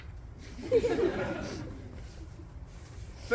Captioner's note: crowd laughs